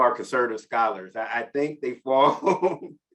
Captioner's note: chuckles